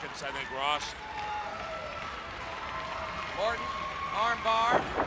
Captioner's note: crowd cheering